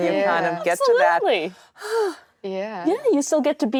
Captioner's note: sighs